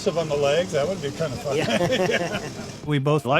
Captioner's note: both laughing